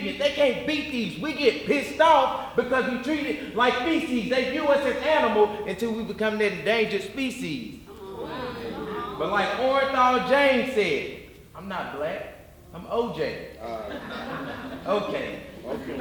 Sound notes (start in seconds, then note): 7.8 audience murmuring; 13.6 audience laughing